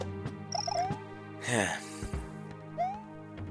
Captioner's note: sigh